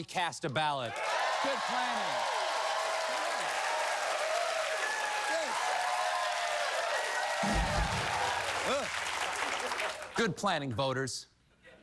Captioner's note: applause